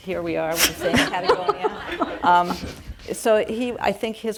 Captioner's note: audience laugh